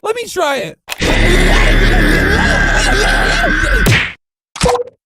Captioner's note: recorded screech